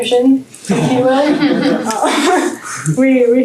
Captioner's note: laughter